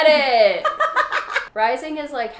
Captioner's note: laughs